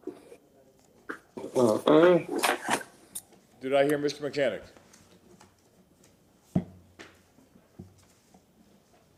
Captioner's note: microphone not on